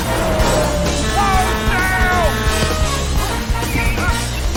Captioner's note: horn blaring